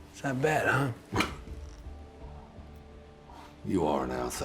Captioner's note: scoffs